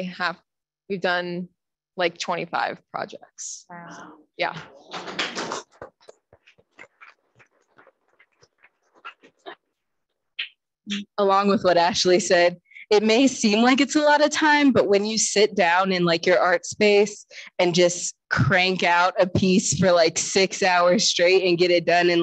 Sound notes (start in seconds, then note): 4.9 audience clapping